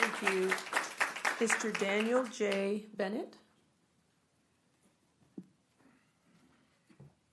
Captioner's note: clapping